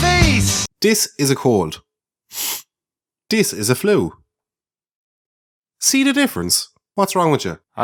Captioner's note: sniff